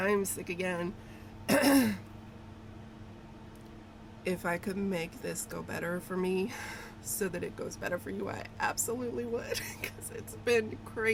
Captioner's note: clears throat; laughs